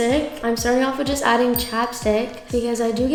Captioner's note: bell chimes